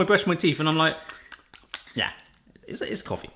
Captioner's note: smacking lips